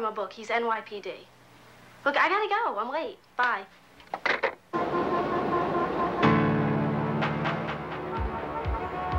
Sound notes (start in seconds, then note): 4.7 horns beeping; 6.5 tense music